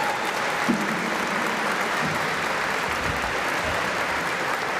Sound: applause

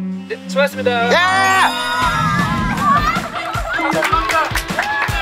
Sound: cheering in the countryside

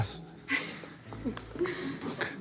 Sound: laughing

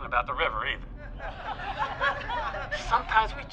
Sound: audience laughing

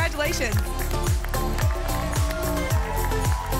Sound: applause and cheering

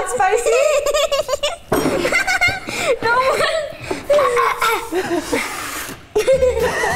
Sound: laughing

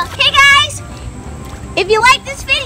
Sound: none

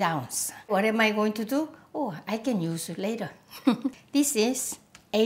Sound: laughs

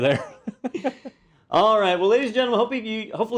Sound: laugh

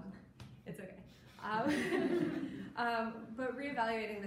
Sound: audience laughing

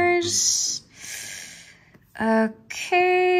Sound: gasp

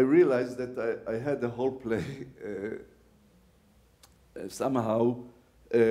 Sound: laughs

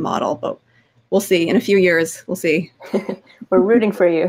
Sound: laughing

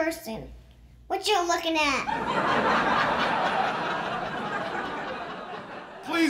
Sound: laughter

